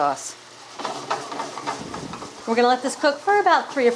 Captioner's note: pan sizzles